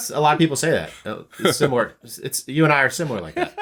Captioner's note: chuckling